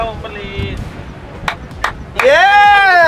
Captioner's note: clapping